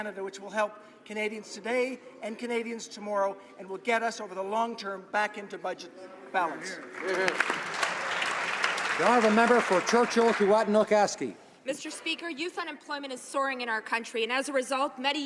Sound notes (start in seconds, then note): 10.7 some Applause